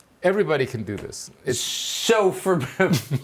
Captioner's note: laughing